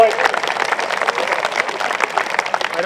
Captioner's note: applause